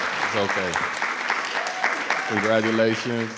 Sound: everyone applauding

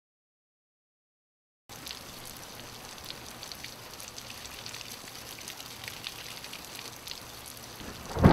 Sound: rain; thunder echoes

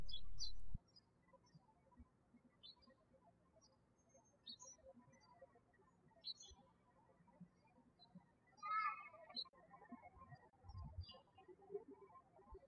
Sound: birds chirping

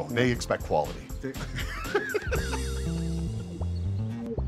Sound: both laugh

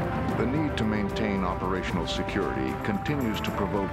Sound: voiceover

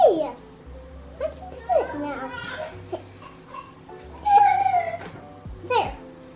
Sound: baby cries in the background

